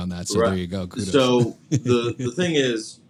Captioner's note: laughs